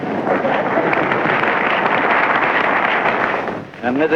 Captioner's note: laughter, Applause